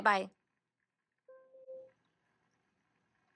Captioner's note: both robots beep once